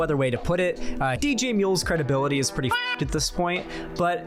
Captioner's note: meow